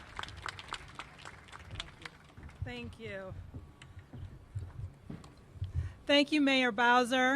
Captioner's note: applause